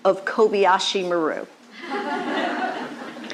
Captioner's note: laughter